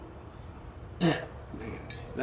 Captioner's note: spits